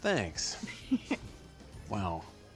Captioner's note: giggles